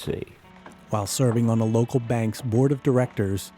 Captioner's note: voiceover